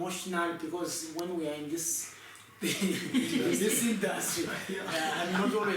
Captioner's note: laughs